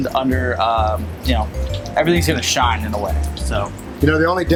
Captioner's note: food sizzling